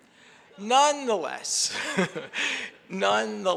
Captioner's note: chuckles